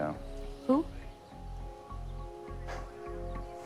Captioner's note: chuckles